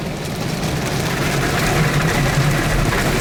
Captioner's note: car washing noises